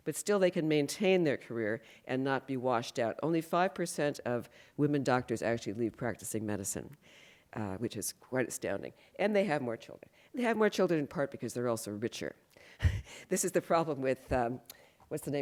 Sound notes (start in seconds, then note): 12.8 laughs